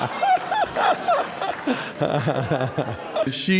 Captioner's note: laughter